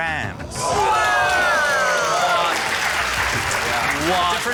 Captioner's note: cheering, applause